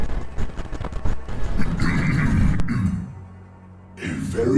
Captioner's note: clears throat